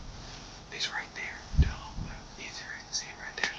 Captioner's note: whispering